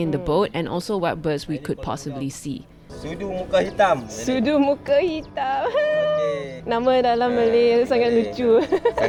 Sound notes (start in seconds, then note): 5.4 witch's cackle